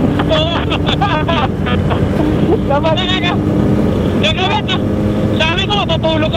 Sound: distorted audio

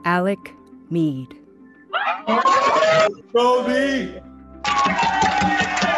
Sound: cheering

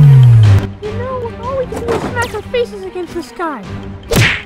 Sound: zap

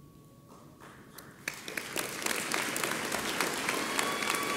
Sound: audience applauds

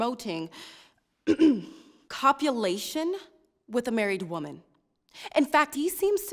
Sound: clears throat

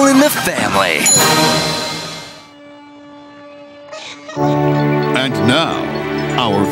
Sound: groans and crying

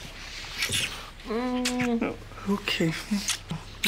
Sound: kissing

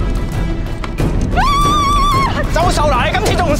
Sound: screams

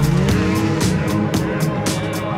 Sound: upbeat music; engine revs

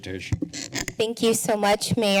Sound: creaking sound

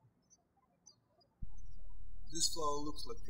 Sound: birds chirping

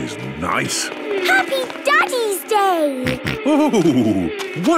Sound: snorting

